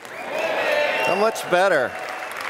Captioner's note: applause